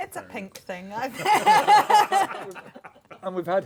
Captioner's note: laughter